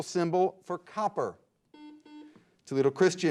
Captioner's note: beep